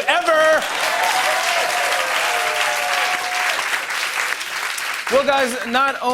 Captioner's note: cheering and applause